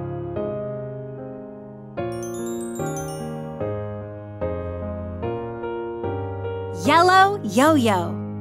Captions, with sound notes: (bell chiming) Yellow yo-yo.